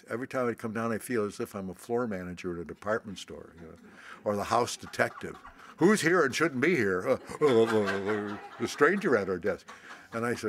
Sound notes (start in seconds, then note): 6.9 laughter